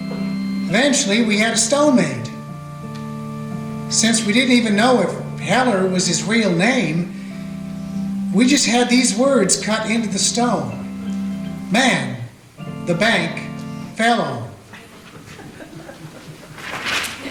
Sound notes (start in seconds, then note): 14.7 soft audience laughter